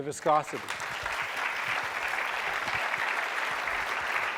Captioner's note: applause